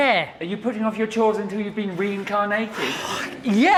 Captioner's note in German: frustriertes Seufzen